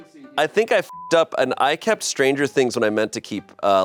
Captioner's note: beep